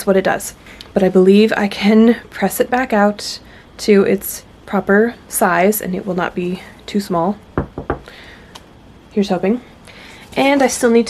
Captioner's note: knocks on wood